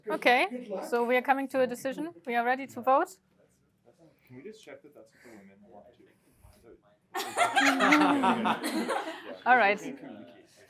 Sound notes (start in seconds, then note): 7.1 laughter